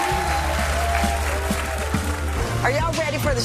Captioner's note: audience cheering